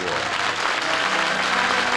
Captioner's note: applause